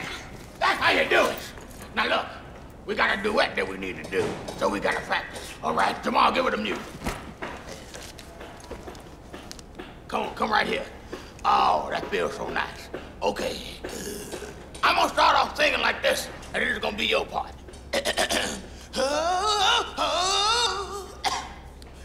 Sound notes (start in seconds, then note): 17.9 clears throat; 21.1 coughs